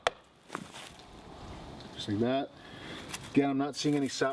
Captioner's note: tapping on tree